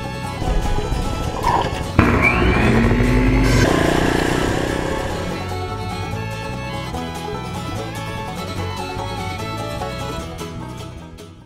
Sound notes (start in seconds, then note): 0.4 chopsaw whirs; 3.6 motorcycle revs